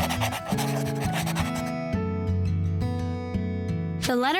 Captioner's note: pencil scratching; gentle bright music